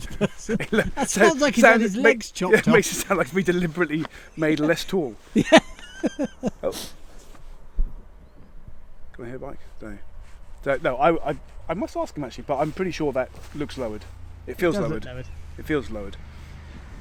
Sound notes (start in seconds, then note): 0.0 laughs; 5.3 laughing